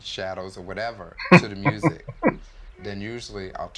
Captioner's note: chuckling